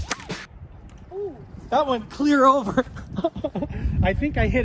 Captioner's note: laughing